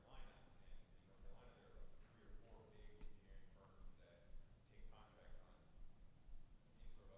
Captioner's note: faintly speaking